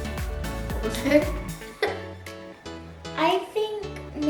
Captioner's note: laughs